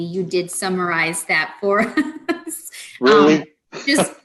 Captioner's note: laughs